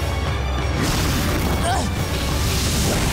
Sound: grunting

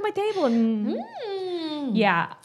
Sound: both humming

